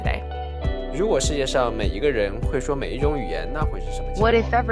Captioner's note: non-english speech